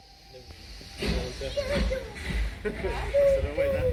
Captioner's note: whistle & Steam train puffing